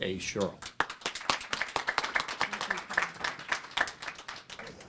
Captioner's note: applause